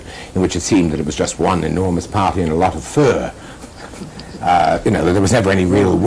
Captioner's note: laughter